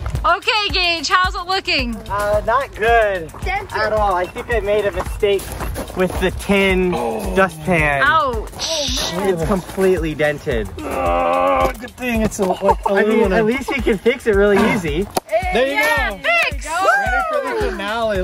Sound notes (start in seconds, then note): 10.8 grunting; 15.4 everyone shouts joyfully